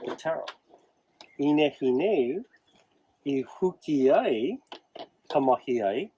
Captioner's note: talks in native language